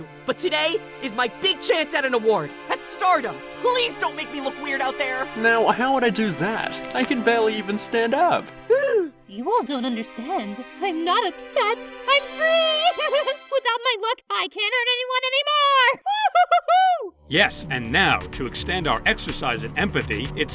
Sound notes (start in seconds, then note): 8.7 paintbrush gasps; 12.6 laughs